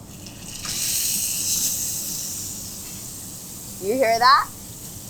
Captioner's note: meat sizzling